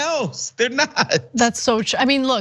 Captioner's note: laugh